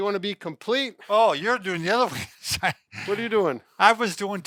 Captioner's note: laughs